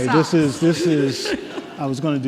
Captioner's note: laughs